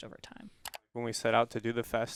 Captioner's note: computer mouse clicking